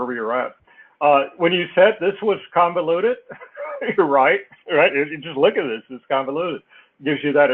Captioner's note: laugh